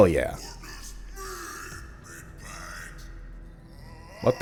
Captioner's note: worried, crescendoing scream